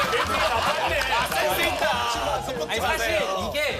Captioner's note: hahaha